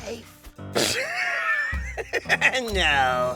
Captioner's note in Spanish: Carcajadas